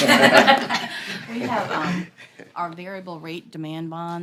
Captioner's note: laughter